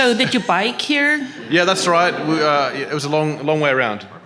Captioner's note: audience laughing